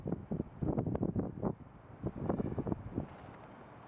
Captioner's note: wind blowing